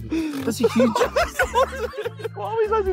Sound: all laughing

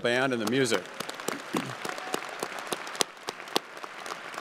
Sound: crowd applauding

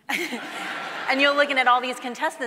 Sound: audience laughing

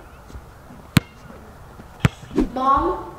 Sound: ball bouncing

